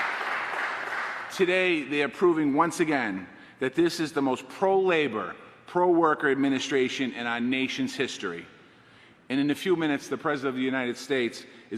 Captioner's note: applause